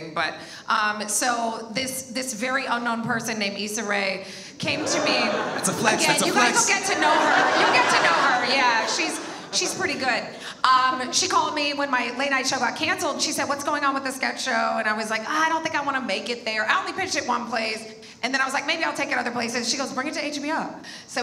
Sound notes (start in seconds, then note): 4.7 audience laughs